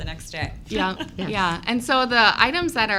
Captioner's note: laughs